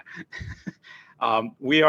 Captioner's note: laughs